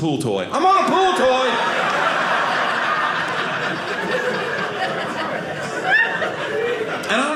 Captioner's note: audience laughing